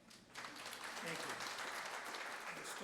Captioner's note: applause